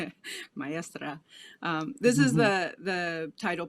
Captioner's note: laughs; speaking a foreign language; laughs